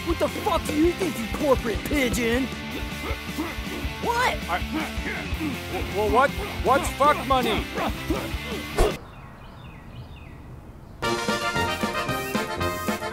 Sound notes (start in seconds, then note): 7.5 vigorous grunting; 11.0 polka music